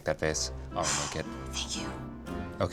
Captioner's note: sighs